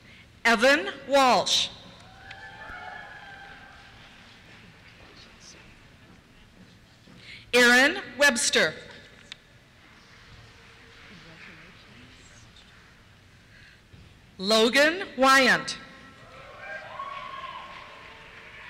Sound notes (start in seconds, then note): 2.0 cheers; 9.4 applause; 16.2 cheers